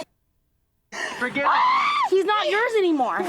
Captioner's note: muted; screeches